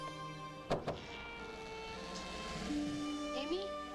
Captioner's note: door knocks